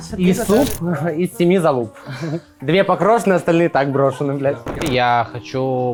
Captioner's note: some kind of Russian incomprehensible shit